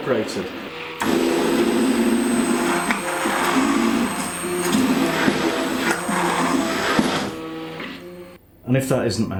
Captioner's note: blender noise